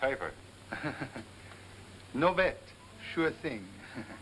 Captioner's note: laughs